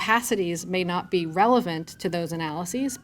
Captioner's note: siren wailing